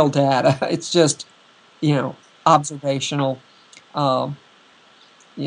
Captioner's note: laughter